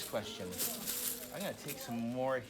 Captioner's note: pennies rattling in bag